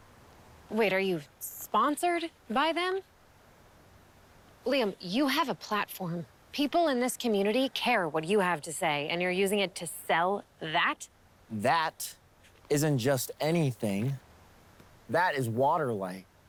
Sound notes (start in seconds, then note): none